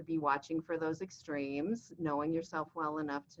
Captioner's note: none